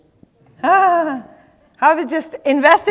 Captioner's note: laughs